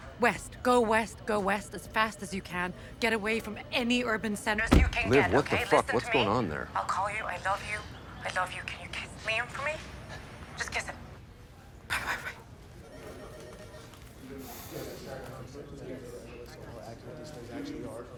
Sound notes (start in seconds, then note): 12.9 phone ringing; 14.3 people chattering